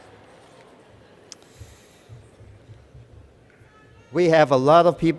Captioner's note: cheers